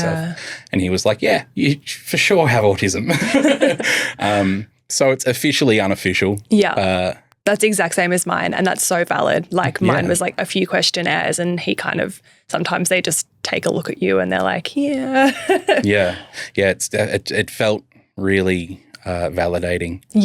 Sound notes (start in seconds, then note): 3.0 all laughing; 15.2 laughs